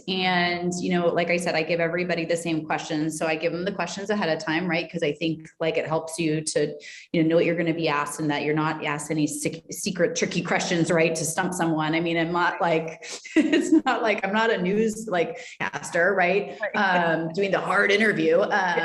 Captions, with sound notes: And, you know, like I said, I give everybody the same questions. So I give them the questions ahead of time, right? Cause I think like it helps you to, you know, know what you're going to be asked, and that you're not asked any secret, tricky questions, to stump someone. I mean, not like... (laughing) It's not like, I'm not a newscaster, right? Doing the hard interview.